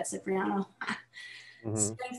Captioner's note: chuckles